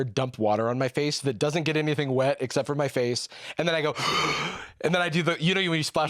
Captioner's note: gasps